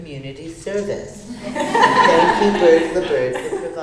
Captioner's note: audience laughter